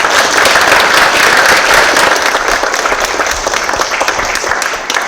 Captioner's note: applause